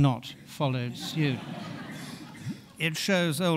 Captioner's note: audience laughing